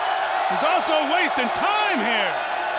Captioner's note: crowd cheering